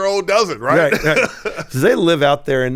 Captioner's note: laughing